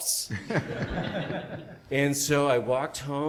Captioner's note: audience laughs